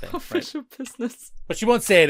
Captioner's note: laughing